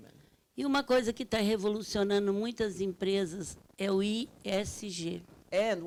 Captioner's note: speaking Portuguese